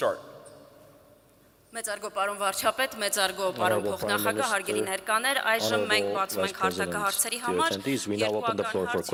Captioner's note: speaking Armenian